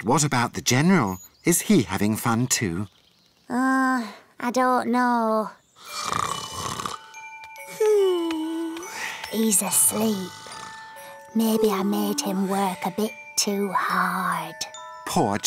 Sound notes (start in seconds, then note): 5.8 snores